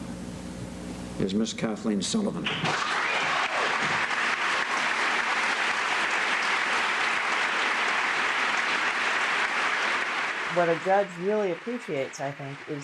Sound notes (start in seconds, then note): 3.0 applause